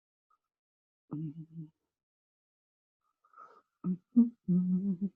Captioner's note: humming